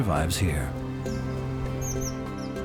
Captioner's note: chirping